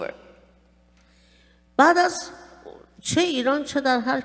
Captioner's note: speaking fpersian